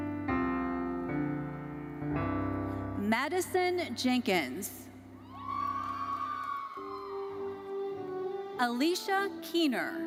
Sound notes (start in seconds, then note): 5.3 audience cheering